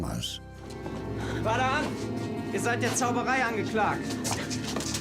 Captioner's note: in German